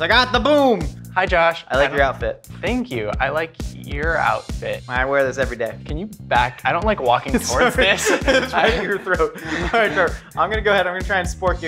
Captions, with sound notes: I got the boom! - Hi Josh! - I like your outfit. - Thank you, I like your outfit. - I wear this every day. - Can you back, I don't like walking towards this. - (laughs) It's right at your throat. All right Trev, I'm gonna go ahead,